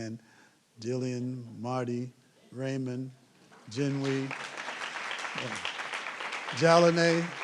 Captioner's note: applause